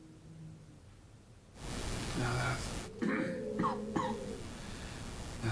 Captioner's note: chokes on words